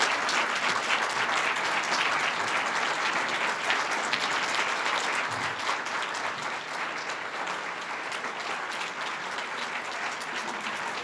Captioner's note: audience applause